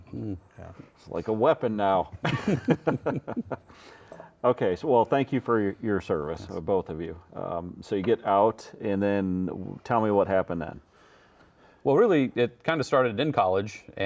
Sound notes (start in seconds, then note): 2.1 laughing